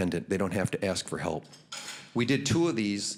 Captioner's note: none